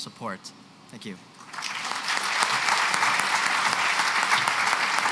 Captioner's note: applause